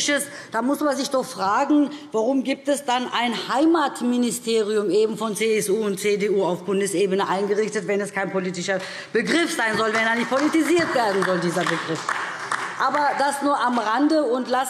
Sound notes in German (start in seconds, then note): 11.9 Beifall DIE LINKE